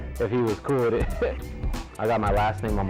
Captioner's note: laughs